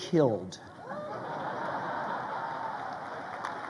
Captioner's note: crowd laughing